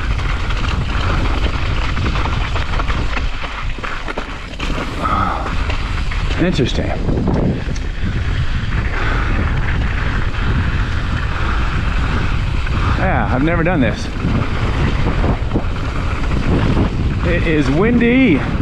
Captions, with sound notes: (bike clattering) (tires swishing) Interesting. Yeah, I've never done this. (wind whooshing) It is windy!